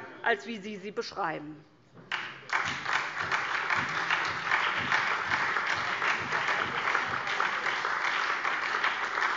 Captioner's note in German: Beifall SPD, BÜNDNIS 90/DIE GRÜNEN, DIE LINKE